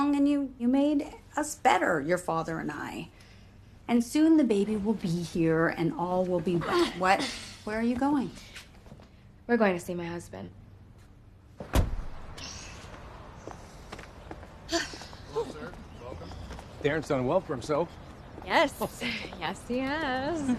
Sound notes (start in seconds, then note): 6.2 groaning; 11.4 sighing; 12.3 exhaling sharply